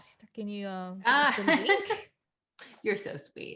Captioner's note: laughs